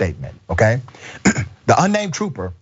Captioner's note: cough